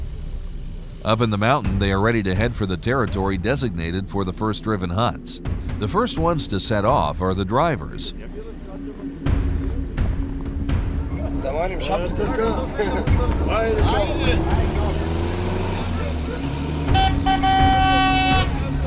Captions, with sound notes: Up in the mountain they are ready to head for the territory designated for the first driven hunts. The first ones to set off for the drivers. [chattering] [vechicle engine revving] [horn honking]